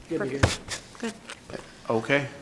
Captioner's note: chattering